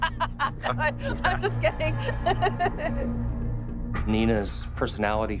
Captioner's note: laughs